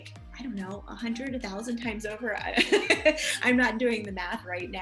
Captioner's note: laughs